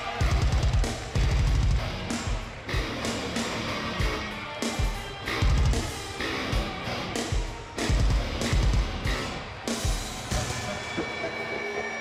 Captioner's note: crowd cheering